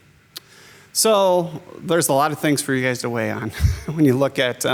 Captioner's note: laughs